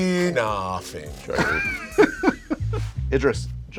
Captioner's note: laughter